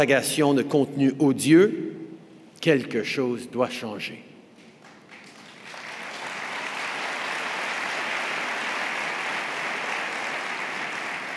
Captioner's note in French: Applaudissements